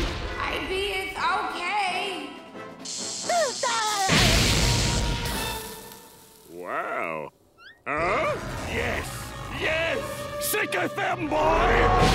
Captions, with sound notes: I be-eth okay [laughing] Wow! Huh? Yes! Yes! Sicketh them, boy!